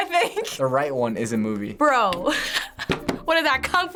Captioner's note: laughs